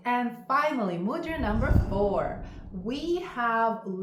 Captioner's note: screen whooshing